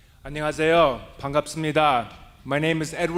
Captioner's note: speaking native language